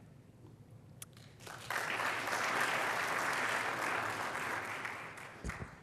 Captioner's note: applause